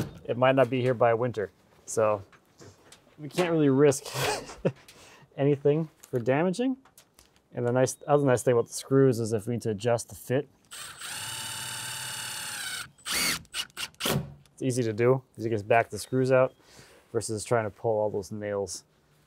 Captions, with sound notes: it might not be here by winter. So we can't really risk anything for damaging. And that's the nice thing with the screws is if we need to adjust the fit, (drill whirs) it's easy to do 'cause you just back the screws out versus trying to pull all those nails.